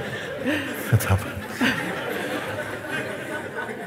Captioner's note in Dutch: gelach